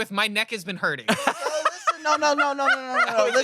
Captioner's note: laughs